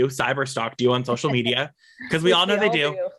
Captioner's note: laughs